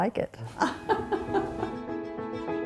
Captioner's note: laughing; cheerful music